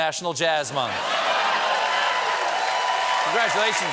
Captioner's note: cheers and applause